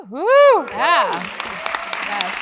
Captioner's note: applause